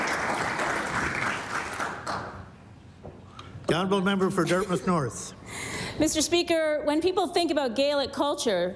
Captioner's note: applause